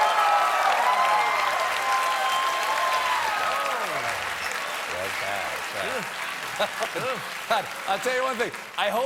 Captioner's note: applause